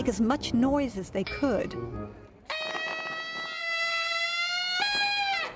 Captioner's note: trumpeting